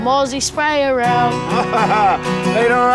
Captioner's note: laughs